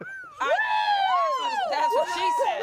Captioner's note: everyone cheers